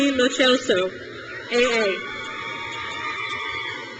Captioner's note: crowd cheers